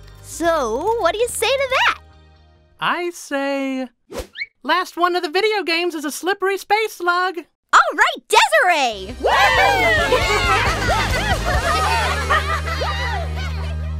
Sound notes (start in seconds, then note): 9.1 all cheer; 10.0 laughter